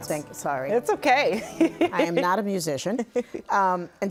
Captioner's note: laughs